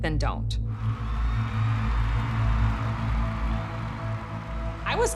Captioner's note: audience applauding and cheering